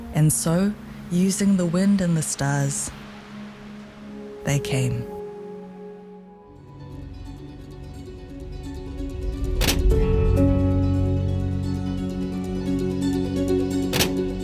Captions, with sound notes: And so, using the wind and the stars, they came. (poignant music) (projector slider clacks)